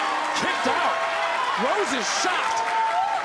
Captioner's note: crowd cheering